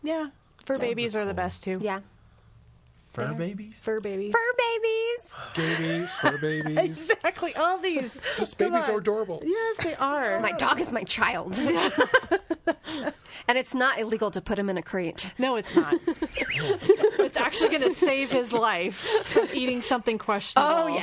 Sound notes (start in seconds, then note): 9.6 laughs; 11.5 laughs; 15.7 all laughing